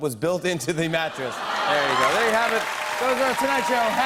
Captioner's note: laughter